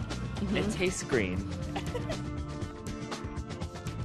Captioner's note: chuckles